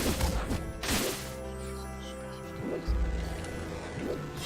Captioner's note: creepy whispers